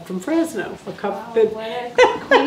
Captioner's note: laughing